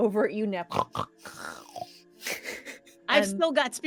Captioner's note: Pivam snorts